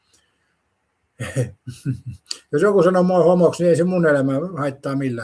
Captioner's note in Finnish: naurua